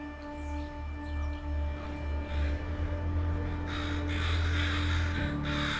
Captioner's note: light dramatic music; crows cawing